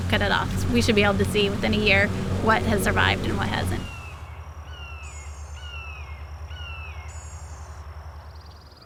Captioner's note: sound of bird calling; sound of insects droning and birds chirping